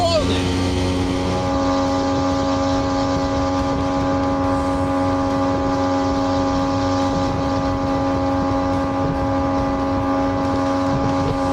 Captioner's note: engine sonds